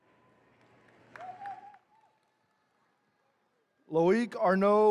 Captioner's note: attendees cheering